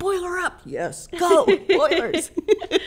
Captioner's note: laughs